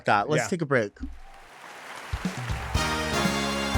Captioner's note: audience applauding; bright dramatic music